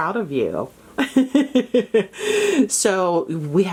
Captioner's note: laughing